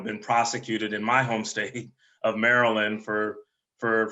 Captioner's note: laughs